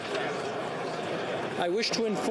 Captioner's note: speaking French